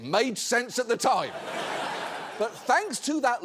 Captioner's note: audience laughs